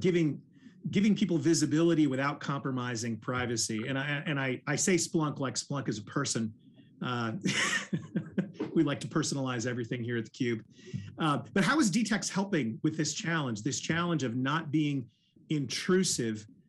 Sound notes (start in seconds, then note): 7.1 man laughing